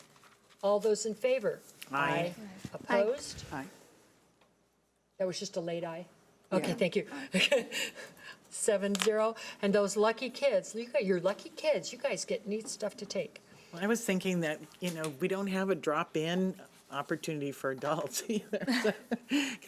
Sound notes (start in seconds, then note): 8.3 laughs; 18.5 laughs